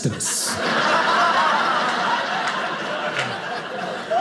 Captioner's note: audience laughing